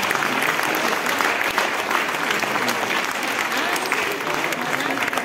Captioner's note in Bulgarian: аплодисменти